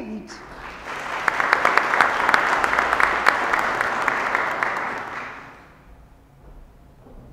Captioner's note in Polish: oklaski